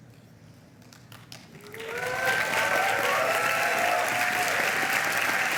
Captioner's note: applause